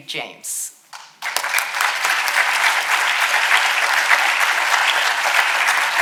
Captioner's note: audience applauding